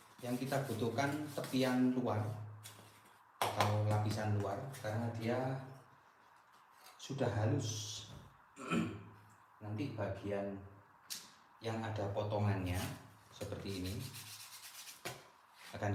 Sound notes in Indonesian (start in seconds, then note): 8.6 berdehem